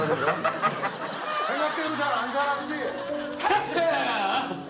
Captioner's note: panting